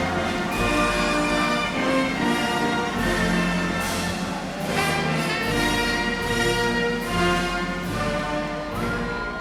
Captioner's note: applause